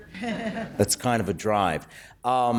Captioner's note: laughter